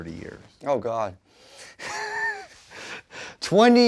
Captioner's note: laughs